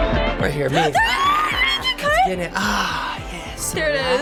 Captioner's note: shrilly